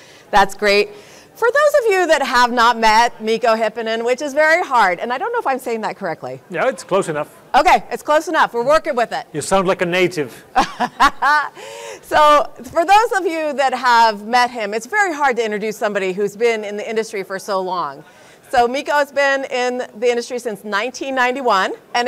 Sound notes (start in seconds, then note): 10.5 laughs